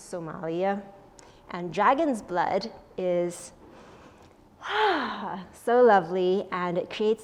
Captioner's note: sighs